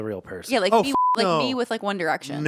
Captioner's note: beep